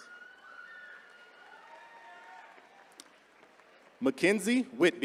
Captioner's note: attendees cheering